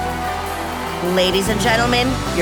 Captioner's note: audience applauding